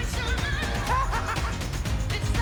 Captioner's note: laughs